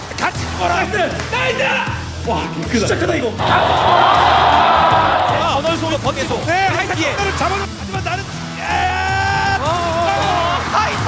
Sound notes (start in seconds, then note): 3.3 +a massive roar from the crowd